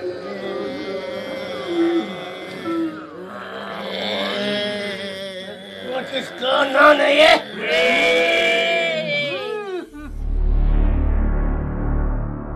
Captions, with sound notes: (ZOMBIES MOANING) WHAT IS GOIN' ON HERE? BRAINSSSSS!